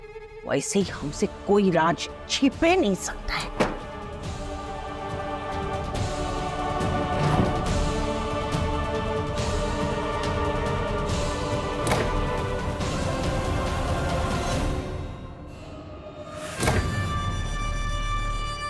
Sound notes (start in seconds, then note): 5.2 pensive music playing; 11.8 door opens; 16.5 door opens